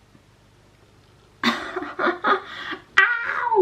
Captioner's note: laughs nervously